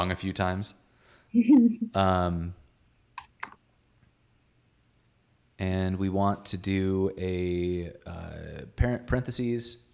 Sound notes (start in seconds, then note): 1.4 giggling